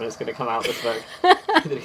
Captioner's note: laughs